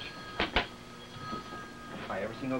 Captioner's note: phone rings